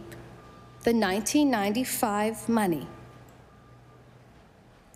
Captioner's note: none